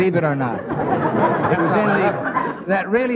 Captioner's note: audience laughing